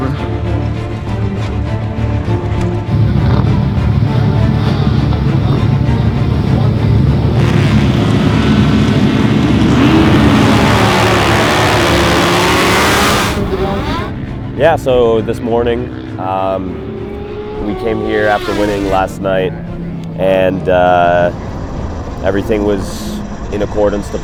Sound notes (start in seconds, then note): 7.4 motorcycles revving